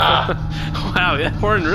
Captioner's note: horn blows